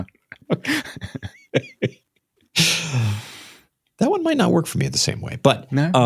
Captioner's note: laughter